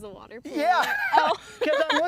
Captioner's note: laughter